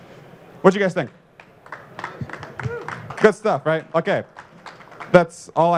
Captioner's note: applause